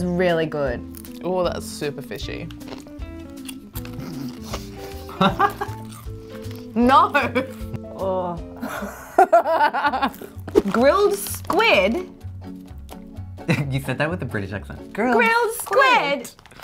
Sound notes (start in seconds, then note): 3.8 snorts; 5.0 laughs; 8.6 laughing